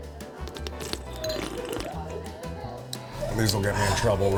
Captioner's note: exaggerated slurping sound